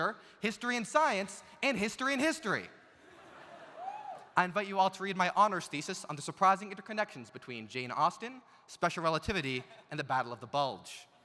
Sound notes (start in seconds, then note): 3.0 audience laughs; 3.8 audience member cheering